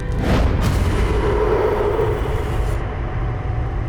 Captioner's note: chilling cry